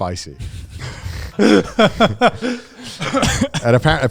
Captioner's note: laughing